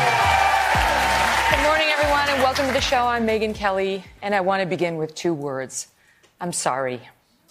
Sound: applause

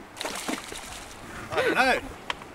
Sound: laughing; water splashing

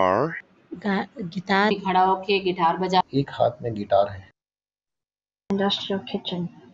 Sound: speaking hindi

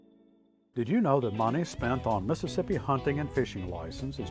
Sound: voiceover

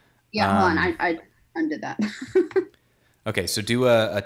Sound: laughs

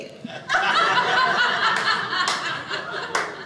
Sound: audience laughing

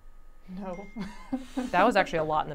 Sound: notification sounding

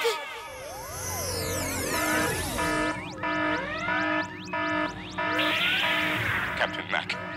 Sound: alarm!

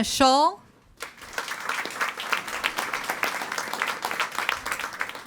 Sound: audience applauding

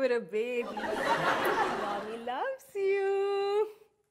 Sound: audience laughs

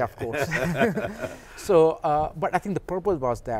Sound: laughing

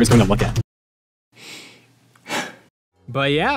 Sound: exhale

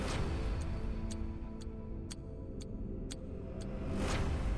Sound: clock ticking

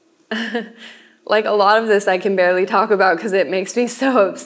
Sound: chuckles

